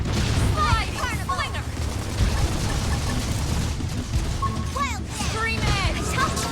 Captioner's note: guns banging